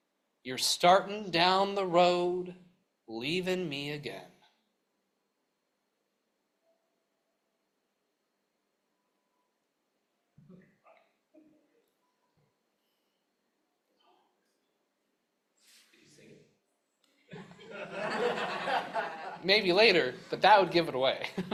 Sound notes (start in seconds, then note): 17.3 laughter; 21.2 chuckles